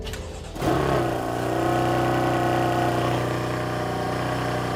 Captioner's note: engine revving